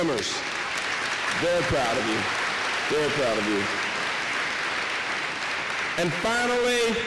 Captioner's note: applause